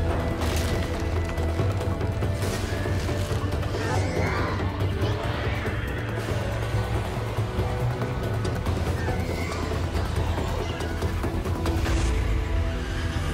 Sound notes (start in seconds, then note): 5.2 creature howling